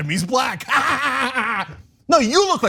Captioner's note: laugh